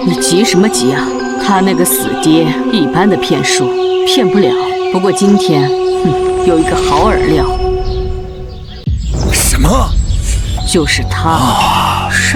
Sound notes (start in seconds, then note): 5.8 hmph